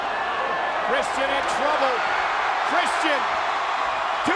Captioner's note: audience cheering